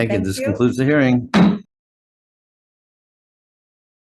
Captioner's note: gavel taps